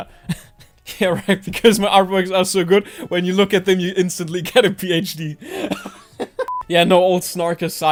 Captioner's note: laughs